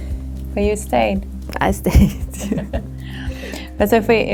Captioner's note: laughs